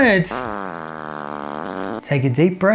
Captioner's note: fart noise